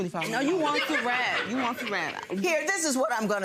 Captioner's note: mumbles